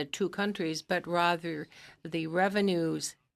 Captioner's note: speaking French